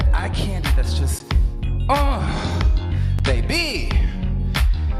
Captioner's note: grunts